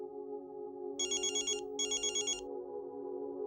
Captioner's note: phone rings